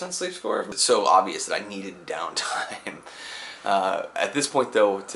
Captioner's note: laughs